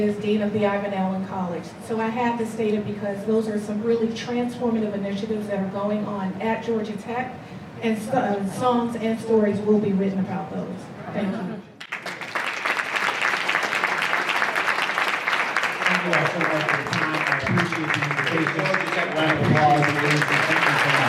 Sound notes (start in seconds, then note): 11.9 applause